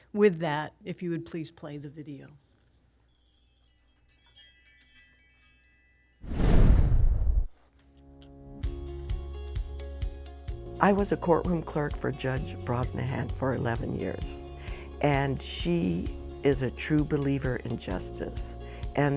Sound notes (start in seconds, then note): 3.1 whimsical bell chiming; 9.1 upbeat music